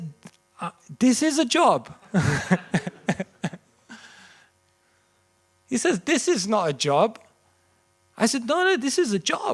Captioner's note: laughter